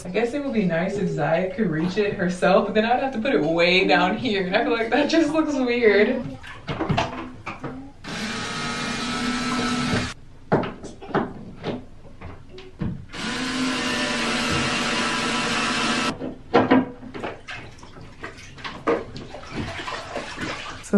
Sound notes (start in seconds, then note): 6.7 light clacking; 6.7 water splashing; 8.0 drill humming; 10.2 light clacking; 13.1 drill humming; 16.1 light clacking; 17.2 water splashing